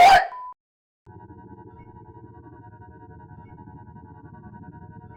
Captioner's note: oscillating sound